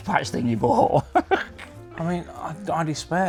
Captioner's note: laughs